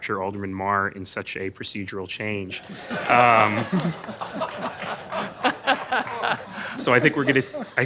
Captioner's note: laughter